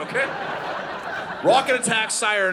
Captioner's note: audience laughing